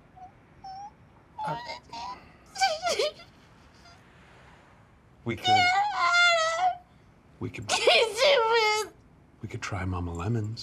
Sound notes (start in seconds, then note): 0.6 whimpers; 1.4 cry!; 5.4 sobs!; 7.6 more sobs, gibberish